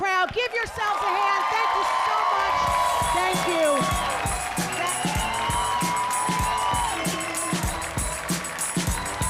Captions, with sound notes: Give yourself a hand, thank you so much. Thank you. (audience cheering)